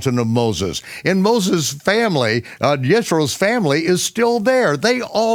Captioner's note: mutters